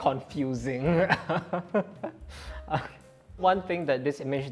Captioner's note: laughs